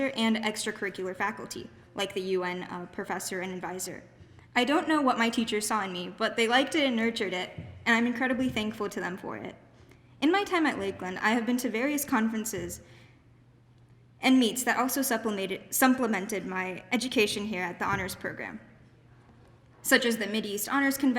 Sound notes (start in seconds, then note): none